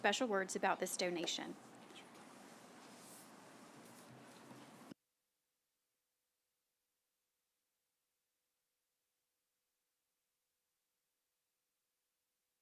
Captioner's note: silence